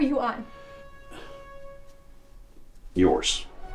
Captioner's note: Dave huffs